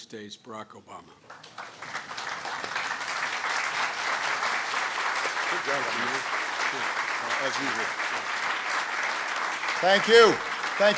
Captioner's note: applause